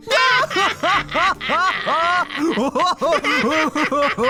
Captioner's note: Emrick and Ralph laugh